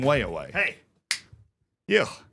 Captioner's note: snaps fingers